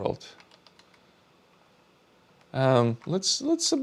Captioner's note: keyboard clicking